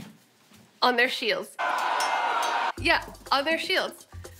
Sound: men yelling, swords clashing

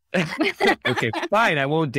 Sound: laughing

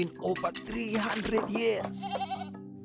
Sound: bleating

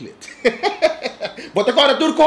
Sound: laughing

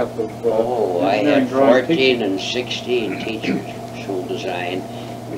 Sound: clears throat

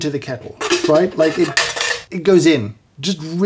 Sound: metal clangs

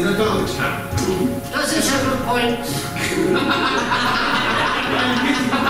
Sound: audience Laughing

